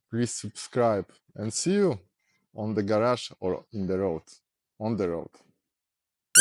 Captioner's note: in polish